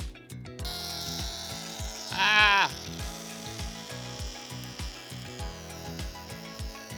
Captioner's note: balloon squealing